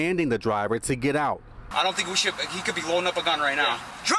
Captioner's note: squealing tires